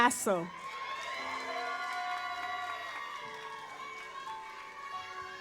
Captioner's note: audience applauds